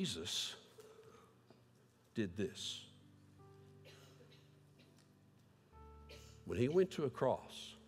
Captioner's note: audio cuts out